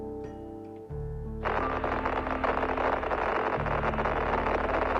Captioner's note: radio static crackling